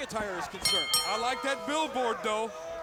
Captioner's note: bell ringing